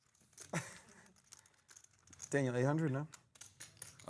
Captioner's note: laughter